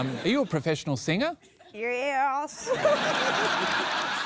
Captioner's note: drawls